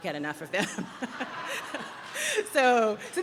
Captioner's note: chuckles